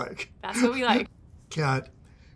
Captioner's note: laughs